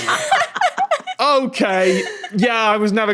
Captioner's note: laugh